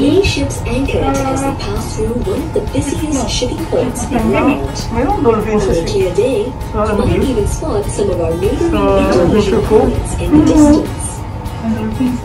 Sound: indistinct chatting

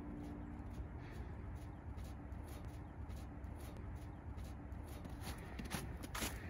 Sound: footsteps in snow

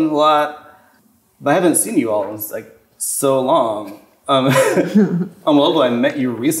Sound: chuckles

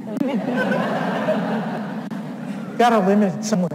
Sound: audience laughs

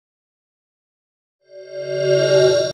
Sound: swoosh

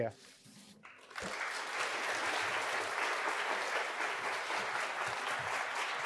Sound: audience applauding

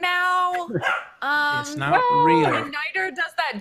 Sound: dog barks

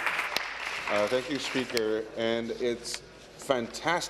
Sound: applause

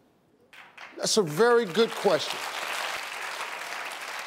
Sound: audience applauds

